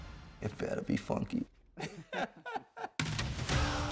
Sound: both laugh

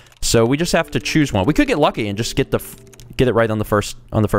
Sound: none

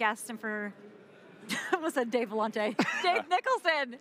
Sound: both laugh

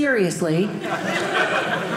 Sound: audience laughing

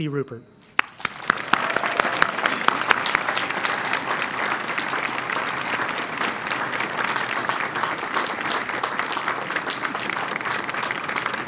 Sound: applause

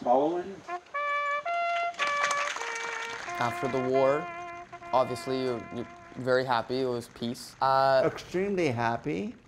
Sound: applause

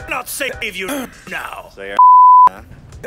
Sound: throat clearing

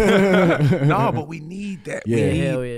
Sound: laugh

